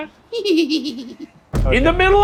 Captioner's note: laughs